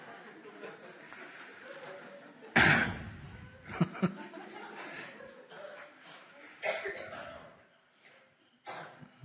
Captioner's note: laughter